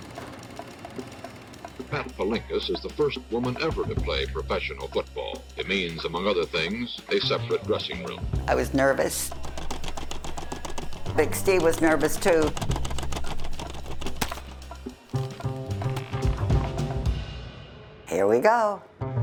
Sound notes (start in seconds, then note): 0.1 camera thrumming; 8.3 pat; 9.6 rattling; 13.0 rattling